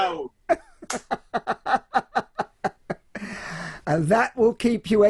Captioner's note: laughs loudly